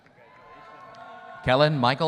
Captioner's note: audience cheering